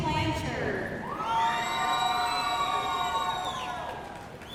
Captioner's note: audience cheering